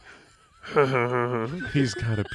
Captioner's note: chuckles